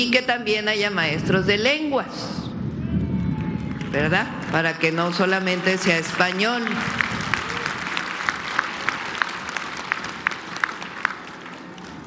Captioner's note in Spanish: aplausos